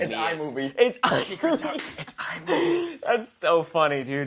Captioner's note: laughs